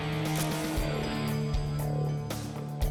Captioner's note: camera shutter click